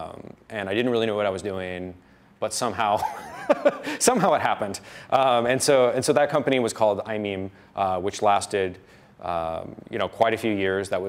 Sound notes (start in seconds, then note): 3.0 laughs